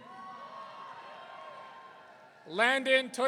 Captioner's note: audience cheering